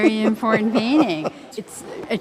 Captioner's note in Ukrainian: сміється